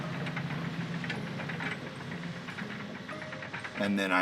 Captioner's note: crank rattles